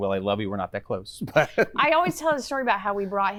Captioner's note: laughs